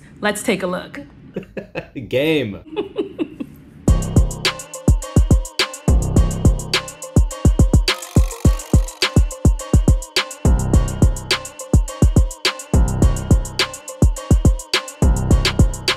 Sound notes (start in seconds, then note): 1.4 laughing; 3.9 funky music